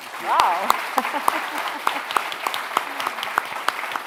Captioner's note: applause